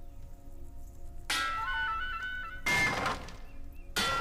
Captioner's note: item crashes